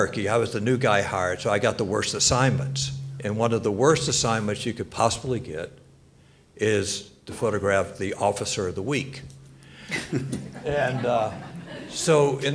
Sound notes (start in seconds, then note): 9.9 panelists and audience laughs